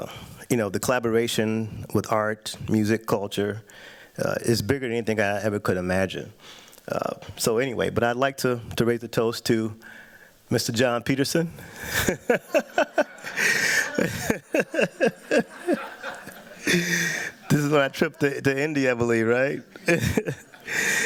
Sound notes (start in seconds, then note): 11.8 laughs